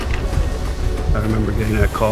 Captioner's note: respirator wheezing